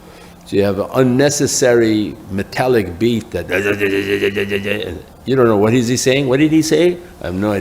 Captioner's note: imitates metallic beat